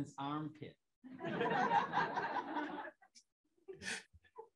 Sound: laughter

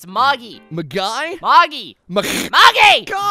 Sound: clears throat

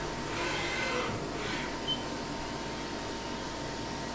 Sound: metal Screams as it is Machined

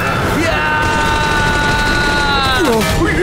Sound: Ace shouts

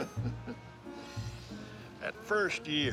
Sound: chuckling

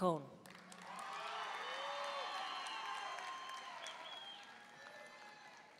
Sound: audience cheering and applauding

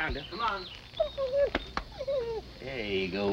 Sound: whimpers

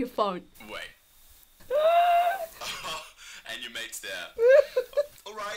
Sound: squeals

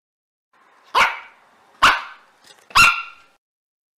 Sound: dog barking

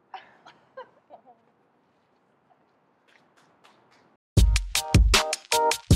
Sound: everyone laughing; upbeat music

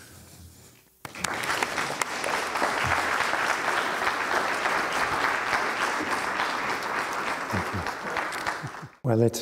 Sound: applause

